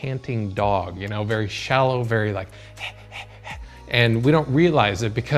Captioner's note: huffing